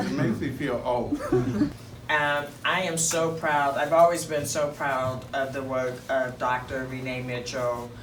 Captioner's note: laughs